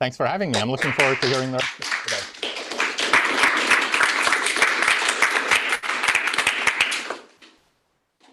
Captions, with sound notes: Thanks for having me. I'm looking forward to hearing that today. [APPLAUSE]